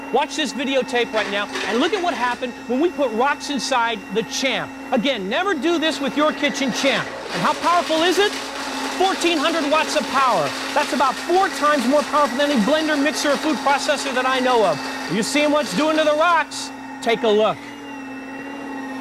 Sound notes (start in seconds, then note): 7.7 blender crunching